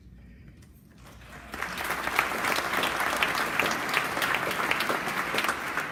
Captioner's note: applause